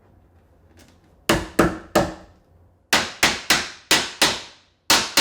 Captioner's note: hammer pounding